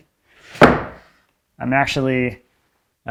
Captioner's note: board snaps